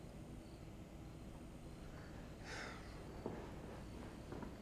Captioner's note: crickets chirping